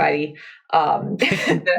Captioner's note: laughs